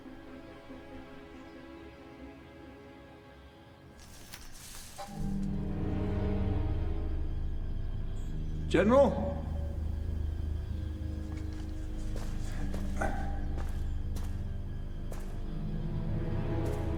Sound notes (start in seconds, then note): 3.9 shrubbery rustling; 10.6 suspenseful music